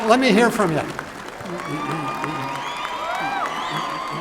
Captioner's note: cheering and applause